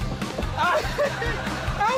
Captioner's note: laughs